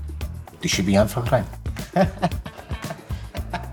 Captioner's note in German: lacht